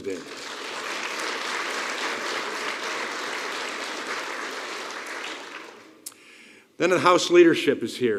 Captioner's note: applause